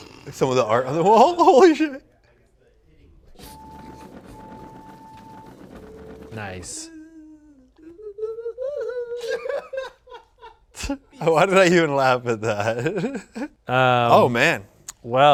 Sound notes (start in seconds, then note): 8.2 giggles; 9.5 laughs